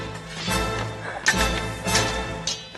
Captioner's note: swords scrape; swords clash